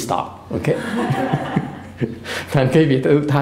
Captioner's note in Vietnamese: laughter